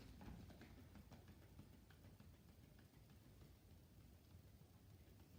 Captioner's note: gentle tapping